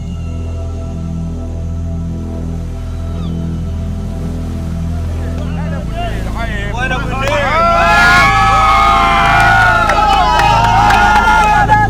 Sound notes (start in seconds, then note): 6.8 men chatter; 6.8 people cheer